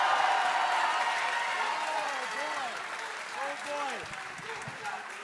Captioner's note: crowd cheering